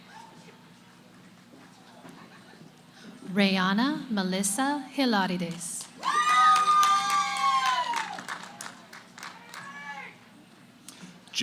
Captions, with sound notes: >> Raeanna Melissa Hilarides. [ Cheering ] >> Yay, Rae.